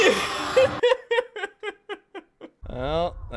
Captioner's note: laugh-Sobbing